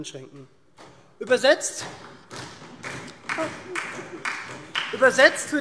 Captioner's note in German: Beifall SPD - Zuruf DIE LINKE